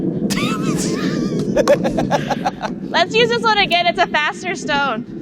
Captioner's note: laughs